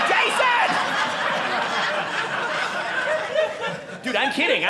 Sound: audience laughing

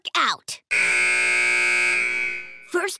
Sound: buzzer

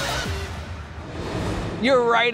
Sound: graphics whooshing

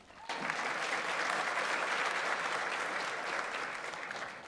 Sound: audience applauds

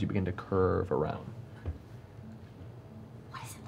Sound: whispering

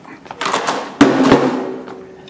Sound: dropping noise

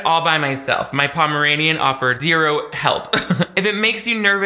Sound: chuckles

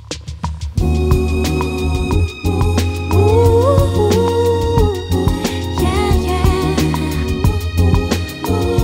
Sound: vocalizing

